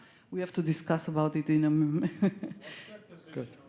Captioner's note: laughs